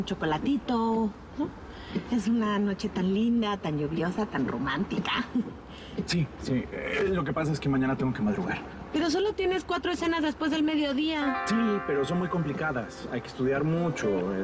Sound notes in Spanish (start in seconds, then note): none